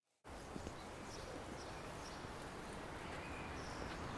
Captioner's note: birds chirp